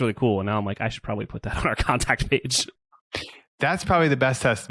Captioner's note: laughs